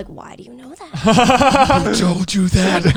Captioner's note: guys laughing